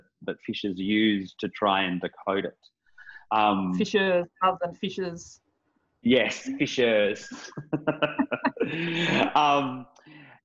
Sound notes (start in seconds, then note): 7.2 laughing